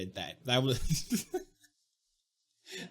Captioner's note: laughing